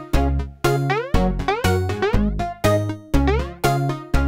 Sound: cartoon boing

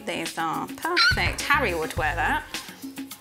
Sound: McGonnagall squeaks

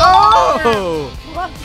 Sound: ding

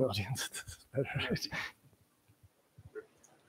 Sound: laughs

